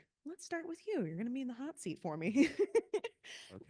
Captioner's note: laughing